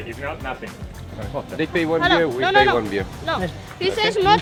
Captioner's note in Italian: Inglese